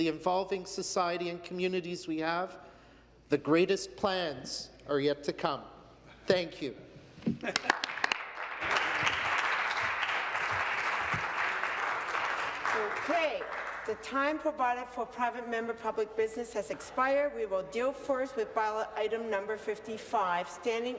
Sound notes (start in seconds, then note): 9.9 some Applause